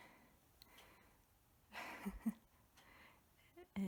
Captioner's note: laughs